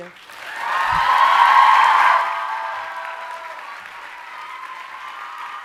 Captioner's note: audience cheering and applauding